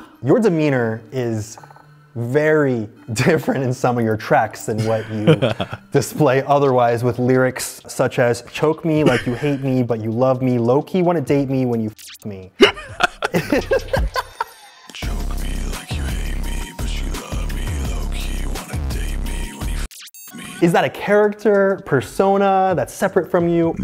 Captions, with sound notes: Your demeanor is very different in some of your tracks than what you display otherwise with lyrics, such as choke me like you hate me, but you love me. Lowkey wanna date me when you fuck me. [laughter] Choke me like you hate me, but you love me Lowkey wanna date me when you fuck me -Is that a character persona that's separate from you?